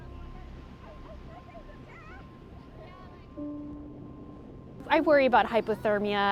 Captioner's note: swimmer exclaiming